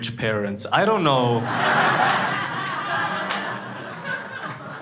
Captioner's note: crowd laughing